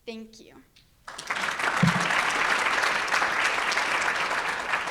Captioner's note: audience applauds